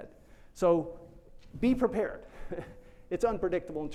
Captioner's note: chuckles